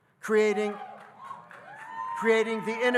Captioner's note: audience cheering